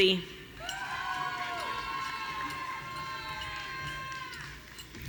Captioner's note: audience cheering